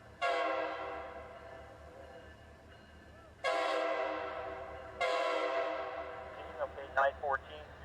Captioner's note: train horn